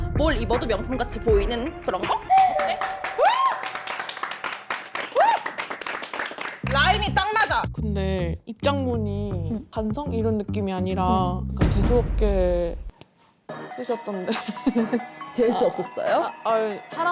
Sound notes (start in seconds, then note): 4.7 snapping applause